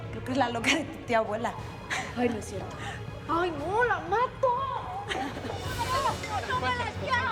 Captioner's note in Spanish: Risas